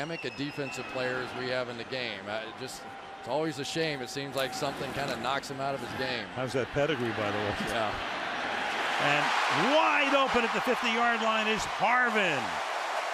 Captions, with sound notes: as dynamic a defensive player as we have in the game. Just-- it's always a shame. It seems like something kind of knocks him out of his game. How's that pedigree, by the way? Yeah. [cheering] And wide open at the 50-yard line is Harvin.